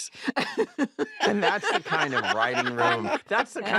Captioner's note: laughs; all laugh